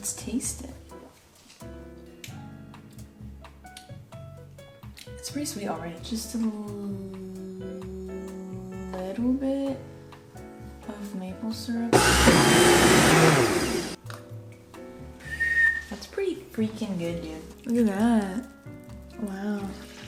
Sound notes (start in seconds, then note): 11.9 blends vigorously; 15.2 tases and whistles